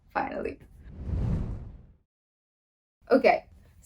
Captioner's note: air whooshing